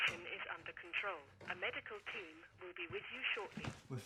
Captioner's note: intercom